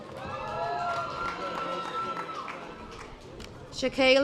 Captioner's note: audience applause